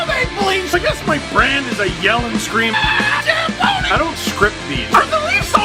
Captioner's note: rock music plays throughout intro; screams